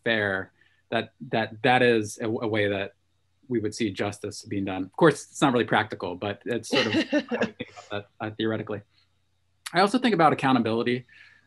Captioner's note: chuckles